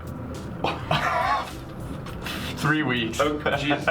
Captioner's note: laughs